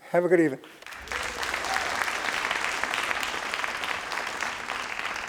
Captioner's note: crowd applauding